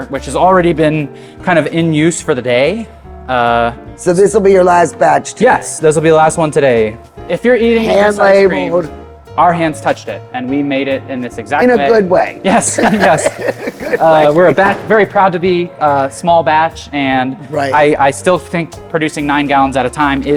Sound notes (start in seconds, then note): 12.4 laughs